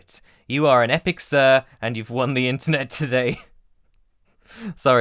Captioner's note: laughs